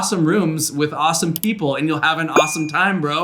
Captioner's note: mouse clicking; bell ringing